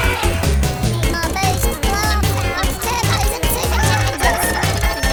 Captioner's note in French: voix aiguë, deformée